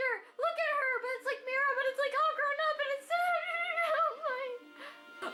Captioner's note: incoherent screaming